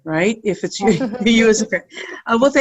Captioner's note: laughing